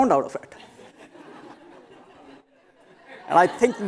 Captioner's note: laughter